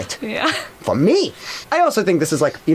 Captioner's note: laughs